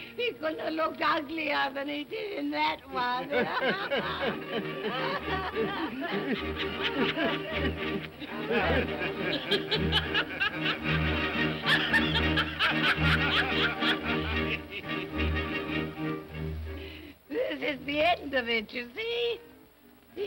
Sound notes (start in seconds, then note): 3.0 all laughing; 14.8 ominous music